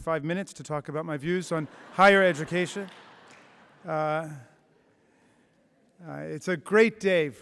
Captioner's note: laughter